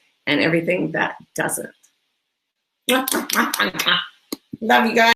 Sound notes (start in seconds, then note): 3.2 kisses